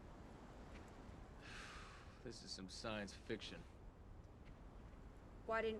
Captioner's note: sighs